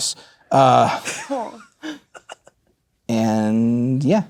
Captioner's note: laughing